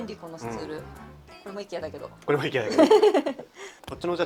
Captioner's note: laughs